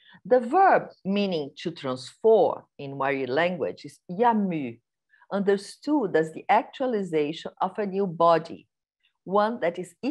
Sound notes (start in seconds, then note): 4.1 non-english speech